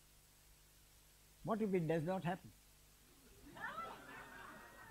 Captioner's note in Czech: smích